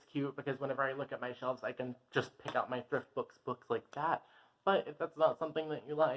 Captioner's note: snap